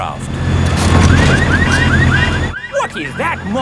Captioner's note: car alarms blaring